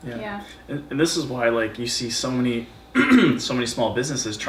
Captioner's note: clears throat